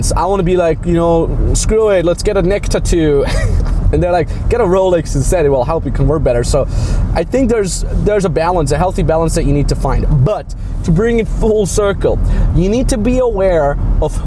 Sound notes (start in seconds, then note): 3.2 laughing